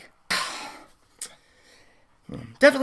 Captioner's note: sigh of relief